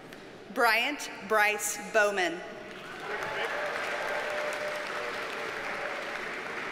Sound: audience cheers and applauds

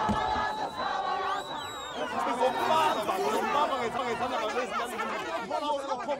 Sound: crowd quiets down

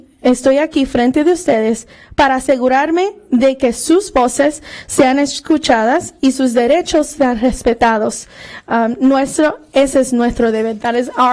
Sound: speaking spanish

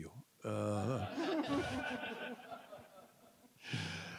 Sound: audience laughing

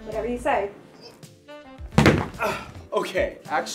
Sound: person thumps

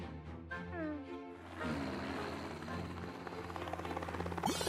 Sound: Lenny the Lightning Bug snoring

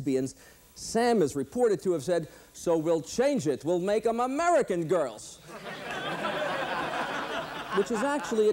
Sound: laughter

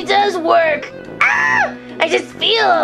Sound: Gekko screaming

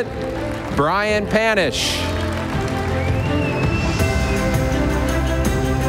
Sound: audience applauding

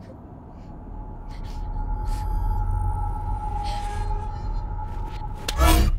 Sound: Kathy sobs

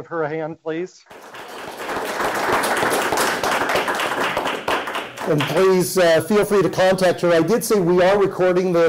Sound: applause

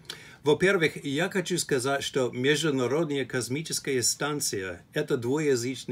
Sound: speaks in Russian

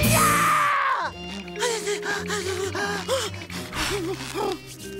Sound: shivering

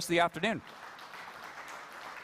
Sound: applause

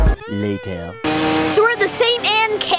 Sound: voiceover

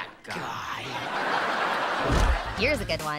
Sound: laughing

